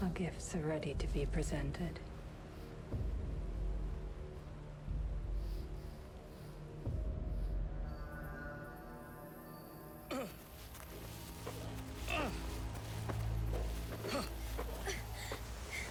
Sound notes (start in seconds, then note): 10.2 heavy breathing; 10.4 grunting